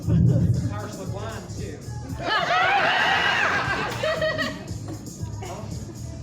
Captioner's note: audience cackles